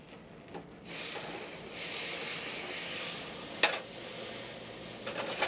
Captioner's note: sizzling